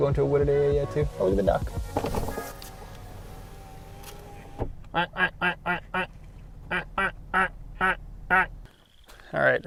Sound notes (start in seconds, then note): 2.0 window whirs